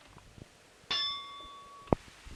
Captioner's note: bell Sound